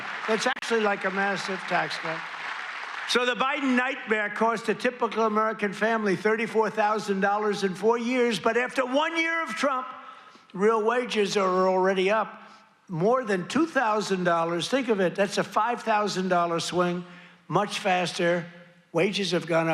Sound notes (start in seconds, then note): 2.2 applause